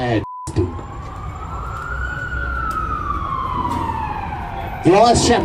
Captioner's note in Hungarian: szirénázás